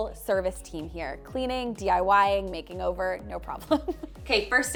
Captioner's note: laughs